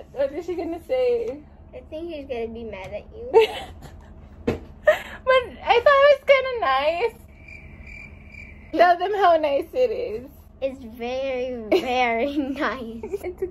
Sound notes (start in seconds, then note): 7.1 cricket sounds